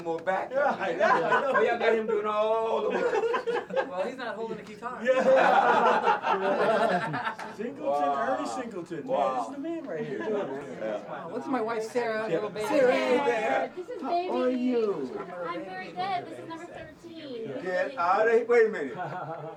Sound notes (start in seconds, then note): 5.6 group laughing